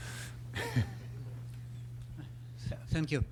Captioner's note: laughs